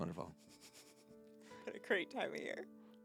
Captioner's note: laughing